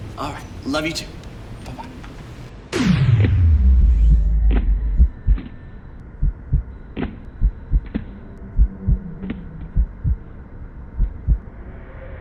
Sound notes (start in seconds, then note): 2.7 heartbeats; 2.7 slow-mo sound